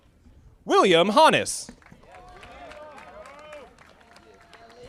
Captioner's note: audience applauding